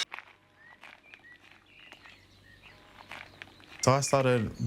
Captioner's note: birdsong, gravel crunches